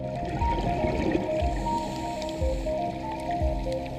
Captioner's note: breathing